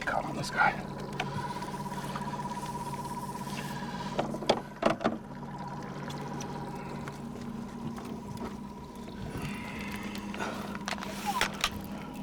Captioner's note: fish splashing